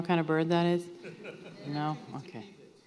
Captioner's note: audience laughing